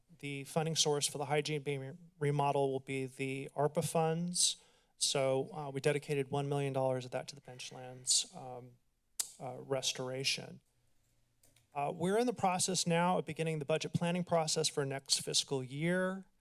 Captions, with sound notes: the funding source for the hygiene being remodeled will be the ARPA funds. So, uh, we dedicated $1 million of that to the Benchlands, um, uh, [clicks tongue] restoration. Uh, we're in the process now of beginning the budget planning process for next fiscal year,